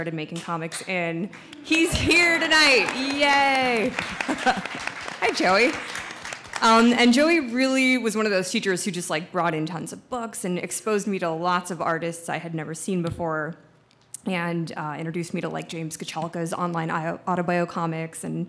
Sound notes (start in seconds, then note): 3.2 audience applauds